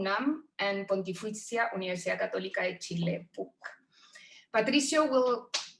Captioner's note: speaks in foreign language